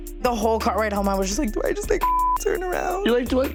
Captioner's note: beep